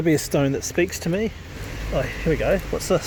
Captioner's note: cars whirring in the background